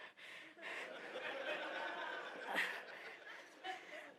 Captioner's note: laughter